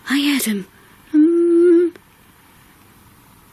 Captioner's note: hum